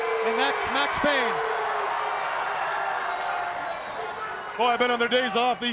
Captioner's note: crowd cheering